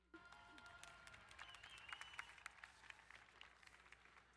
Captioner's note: crowd applauding